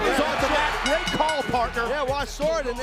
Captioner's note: bell dinging